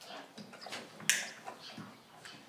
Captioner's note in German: Klicken